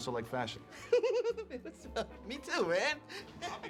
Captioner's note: giggles